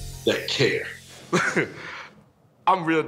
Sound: laughs

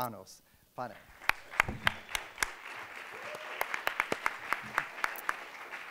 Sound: applause

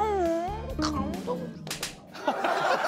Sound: smacking

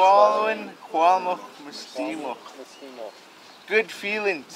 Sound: speaking Hul'qumi'num

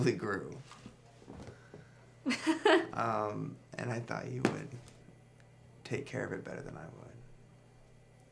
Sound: laughs

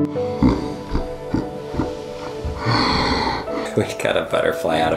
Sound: maniacal laughing

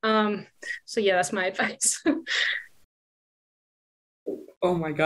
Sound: chuckles

